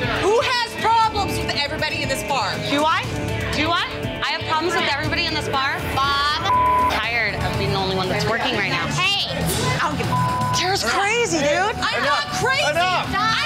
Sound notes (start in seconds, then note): 6.4 beep; 10.0 beep